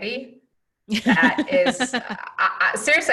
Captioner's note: laughing